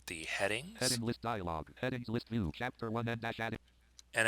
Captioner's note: synthesized speech